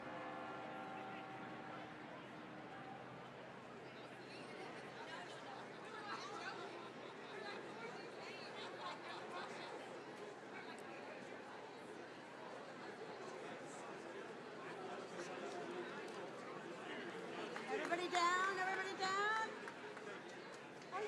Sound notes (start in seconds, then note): 2.0 attendees chattering continues